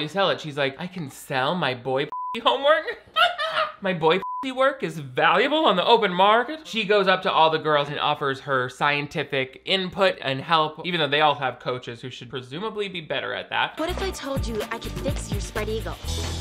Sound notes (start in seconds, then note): 3.0 laughs; 4.2 beep